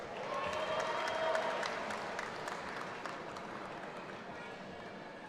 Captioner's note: audience applauding and cheering